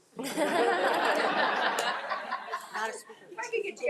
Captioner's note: audience applauds